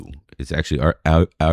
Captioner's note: uh